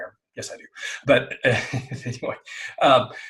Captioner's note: chuckling